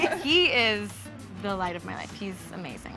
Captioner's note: laugh